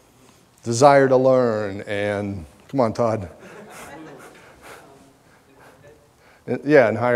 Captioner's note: audience laughter